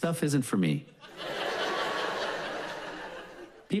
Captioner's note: audience laughs